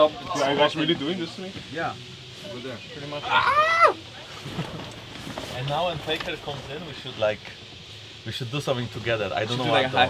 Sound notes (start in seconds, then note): 3.3 someone yelps